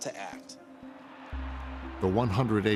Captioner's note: crowd cheering